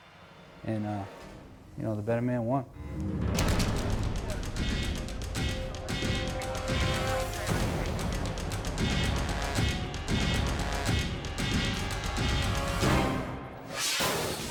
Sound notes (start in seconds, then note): 3.4 flash bang grenade blasting; 5.2 dramatic music